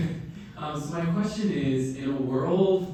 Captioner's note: laughing